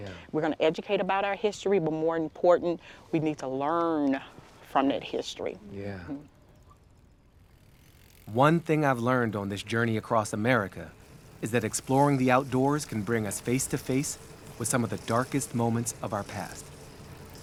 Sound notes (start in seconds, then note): none